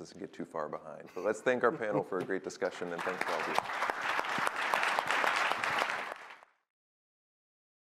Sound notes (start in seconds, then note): 2.8 applause